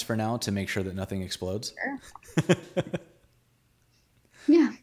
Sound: laughs

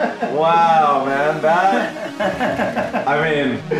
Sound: laughs

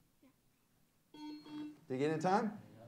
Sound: bell rings; buzzer sounds

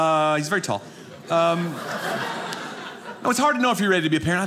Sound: audience laughing

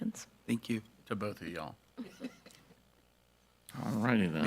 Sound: group chuckles

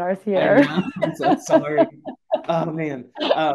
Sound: laughing

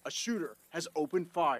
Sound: nats of running at :26

